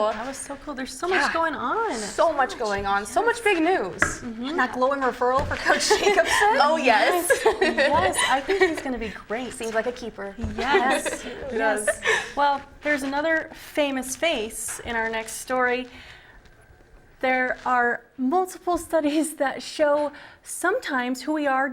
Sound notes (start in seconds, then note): 7.0 all laughing; 10.6 laughs